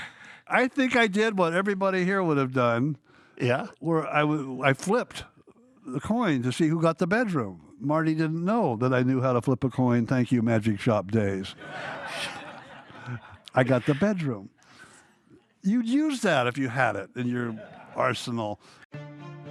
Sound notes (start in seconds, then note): 11.5 audience laughing